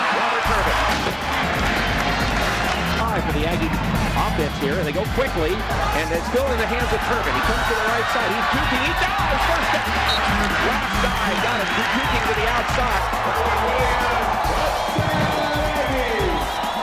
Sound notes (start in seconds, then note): 1.2 cheering; 16.6 upbeat music